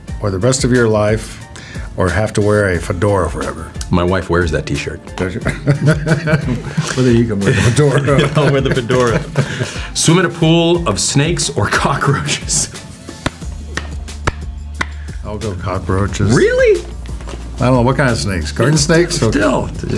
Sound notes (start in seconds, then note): 5.4 laughs; 12.5 laughs; 13.0 paper slapping